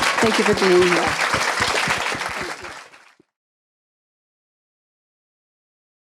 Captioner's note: audience clapping